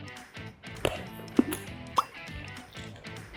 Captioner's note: crunchy